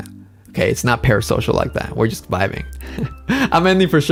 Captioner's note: laughs